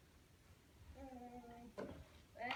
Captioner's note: groan